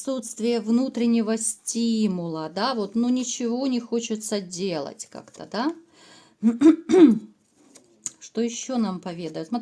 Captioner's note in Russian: кашель; откашливается